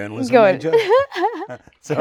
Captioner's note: both laughing